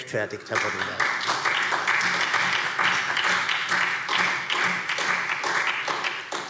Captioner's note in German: Beifall SPD